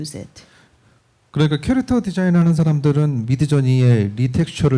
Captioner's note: speaking korean